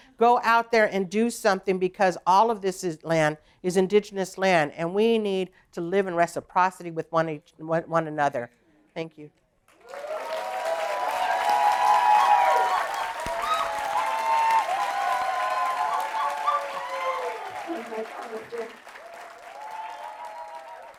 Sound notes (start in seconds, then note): 10.8 applause